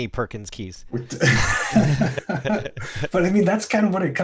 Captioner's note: laughter